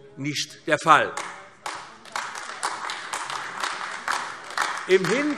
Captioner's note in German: Beifall AfD